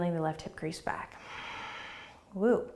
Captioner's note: exhaling